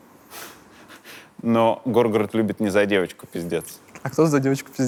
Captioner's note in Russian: смеется